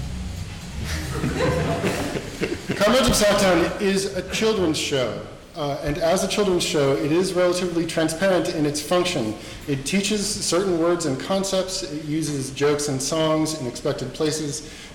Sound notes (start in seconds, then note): 0.8 audience laughing